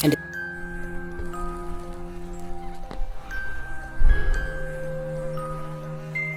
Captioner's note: gentle music continues; fly buzzes